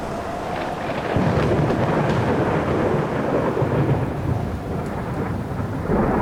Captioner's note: thunder rumbles